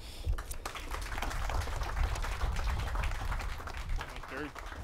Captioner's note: audience claps